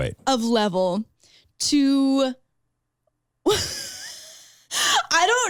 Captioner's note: laughs